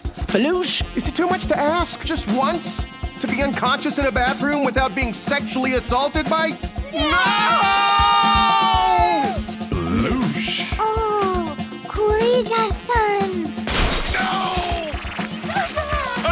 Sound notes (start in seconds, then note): 13.7 crash; 15.4 moans